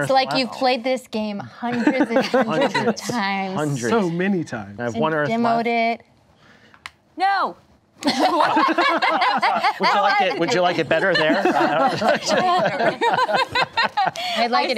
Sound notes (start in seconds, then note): 6.8 piece clicks on board; 8.1 laughing